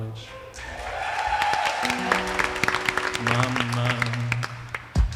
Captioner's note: attendees applauding